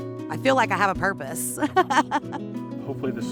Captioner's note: laughing